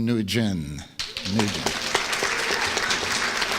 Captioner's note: applause